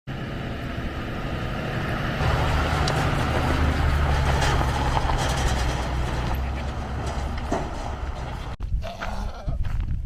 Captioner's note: goat Noises